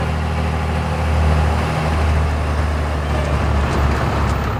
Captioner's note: engine whirring